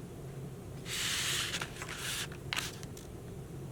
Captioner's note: paper rustling